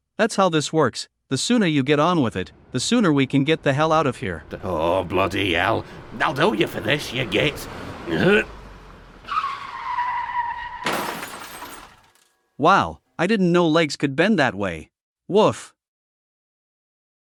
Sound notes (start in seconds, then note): 8.1 grunt; 8.4 squeal of brakes, impact